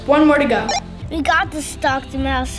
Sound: radio beeping

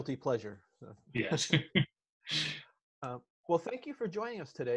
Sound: laughs

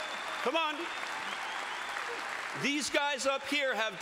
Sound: applause

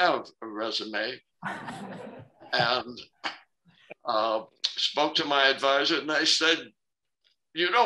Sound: laughter

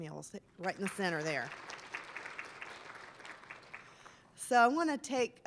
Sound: applause

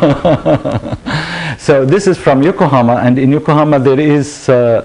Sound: laughter

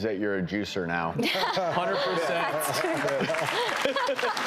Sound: everyone laughs

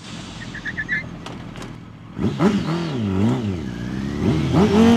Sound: tires squealing

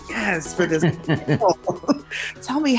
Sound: all laugh

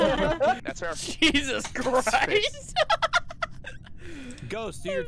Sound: laughing; laughter

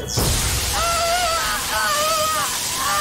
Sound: screaming

